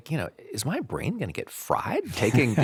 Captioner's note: laughing